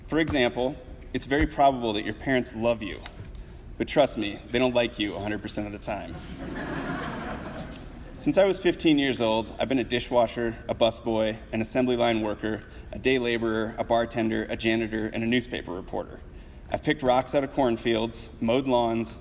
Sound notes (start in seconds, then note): 6.1 audience laughs